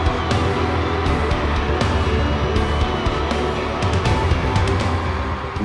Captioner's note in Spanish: habla portugués